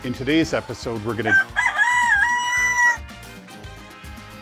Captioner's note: rooster crows